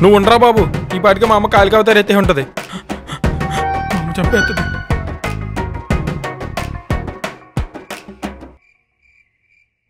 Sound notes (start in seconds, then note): 2.6 panting